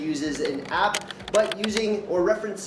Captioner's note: keyboard clicks